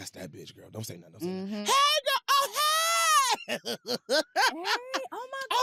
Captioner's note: laughs